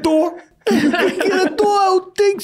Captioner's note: everyone laughing